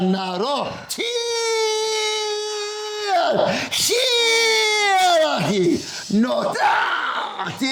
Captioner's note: non-english speech